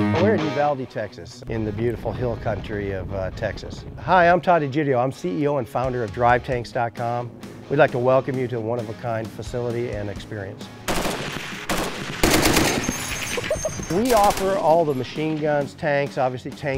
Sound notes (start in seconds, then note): 10.8 gunshots